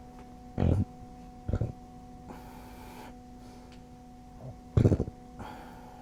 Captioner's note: soft grunting